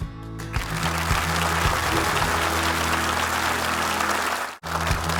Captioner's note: audience applauding